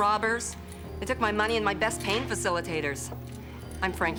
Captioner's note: none